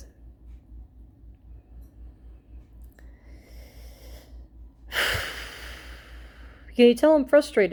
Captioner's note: big sigh